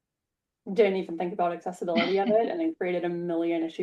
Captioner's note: laughs